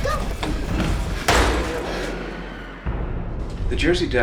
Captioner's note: bang